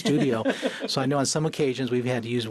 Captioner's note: laughs